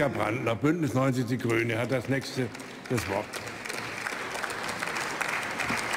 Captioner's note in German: Beifall beim BÜNDNIS 90/DIE GRÜNEN